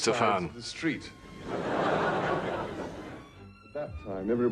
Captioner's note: audience laughs